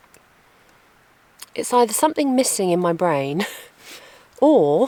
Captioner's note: giggle